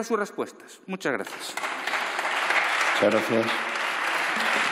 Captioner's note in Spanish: Aplausos